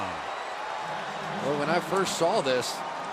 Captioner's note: cheering